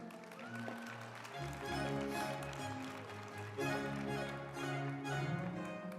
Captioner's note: group applauding; uplifting music